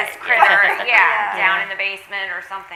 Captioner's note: all laughing